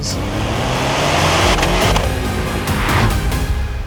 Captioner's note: engine revs